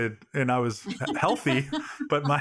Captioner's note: laughing